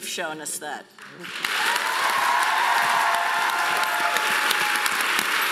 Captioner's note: audience applauding loudly